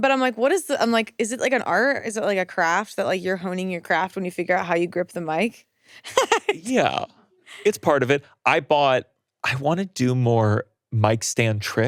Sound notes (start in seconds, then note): 6.0 laughing